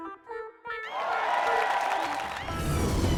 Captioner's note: cheers and applause